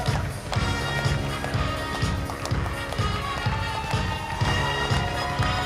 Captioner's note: applause